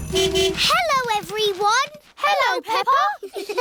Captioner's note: horn honking; giggling